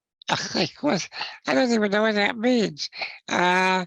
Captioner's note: chuckles